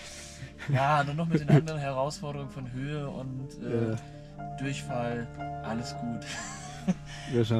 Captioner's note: laughs